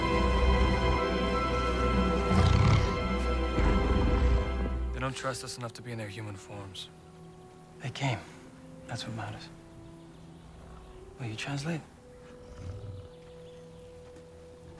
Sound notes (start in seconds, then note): 2.2 growling